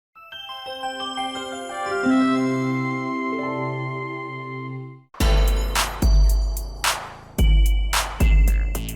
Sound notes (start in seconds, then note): 0.2 gentle chiming; 5.2 intense hip hop music